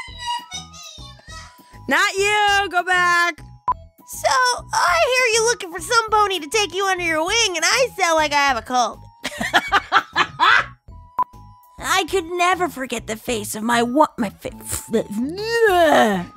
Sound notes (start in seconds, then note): 9.3 laughs